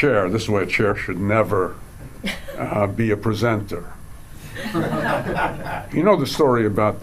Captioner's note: audience laughs